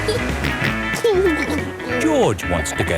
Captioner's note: snorts and giggles